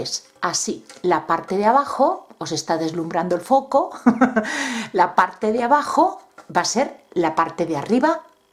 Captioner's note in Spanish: risas